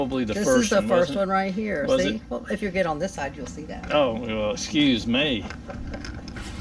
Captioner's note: sarcastically